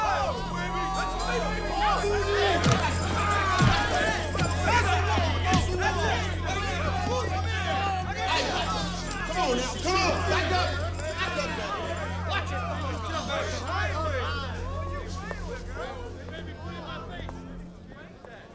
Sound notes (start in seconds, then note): 0.1 club thudding; 0.1 men speaking excitedly; 6.2 men talking excitedly